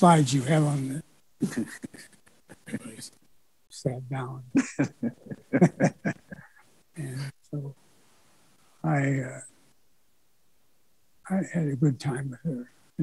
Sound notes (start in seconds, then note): 1.4 chuckles; 4.5 laughs